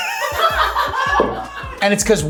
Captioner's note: everyone laughing